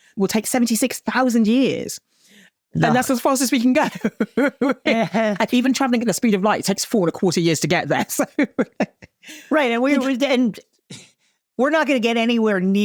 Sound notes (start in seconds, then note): 2.8 laughing; 9.9 chortles